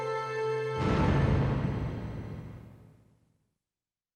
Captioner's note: dramatic music; graphic thudding